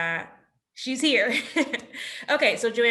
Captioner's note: laughs